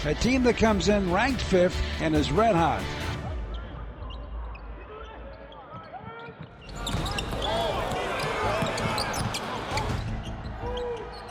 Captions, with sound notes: A team that comes in ranked fifth and is red hot. (basketball sneaker squeaks)